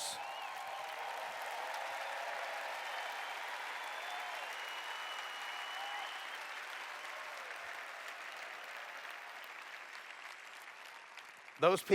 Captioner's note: cheers